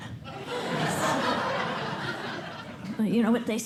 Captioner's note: laughter